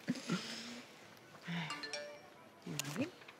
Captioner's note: phone notification